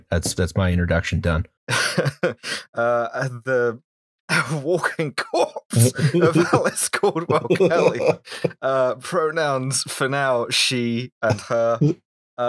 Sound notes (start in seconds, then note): 1.7 laughter; 7.0 coughing fit